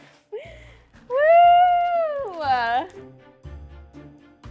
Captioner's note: laughing; cheering; upbeat music